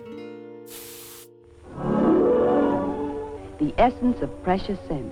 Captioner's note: perfume hissing